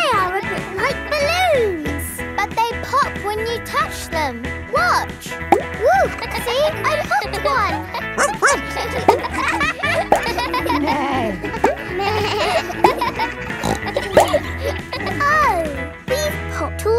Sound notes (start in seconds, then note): 6.4 kids laughing; 8.1 barks; 11.1 bleats; 11.1 neighs; 14.1 snorts